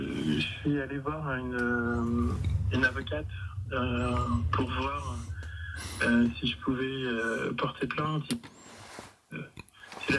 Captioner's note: we hear the sound of the radio